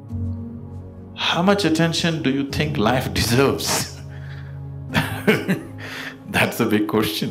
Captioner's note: laughs